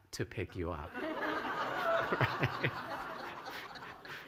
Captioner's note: laughter